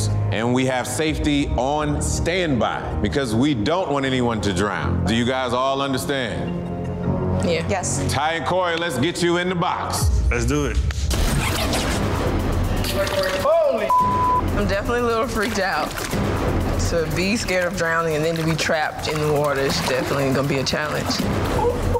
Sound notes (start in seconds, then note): 10.8 hands clapping; 11.2 scene whooshing